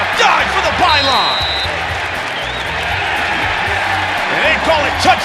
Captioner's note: whistles